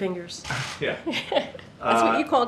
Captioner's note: laughs